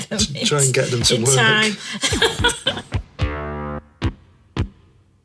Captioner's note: laughing